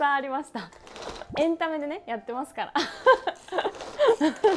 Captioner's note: laughs